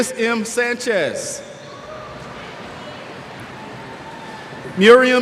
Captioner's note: cheers